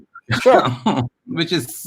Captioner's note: laughs